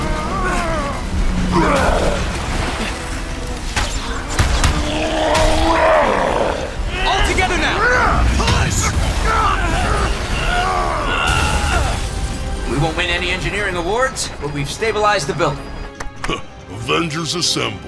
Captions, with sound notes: [ROARING] All together now-- push! We won't win any engineering awards, but we've stabilized the building. Avengers assemble.